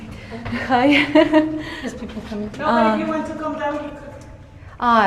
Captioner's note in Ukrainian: сміх